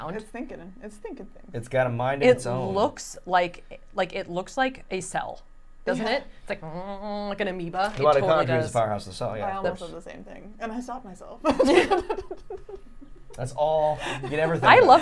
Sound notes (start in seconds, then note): 6.9 making droning sound; 11.4 laughing